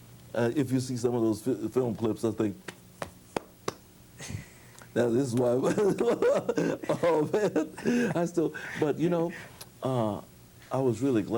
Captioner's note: claps hands